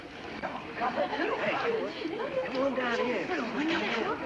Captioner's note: women chatting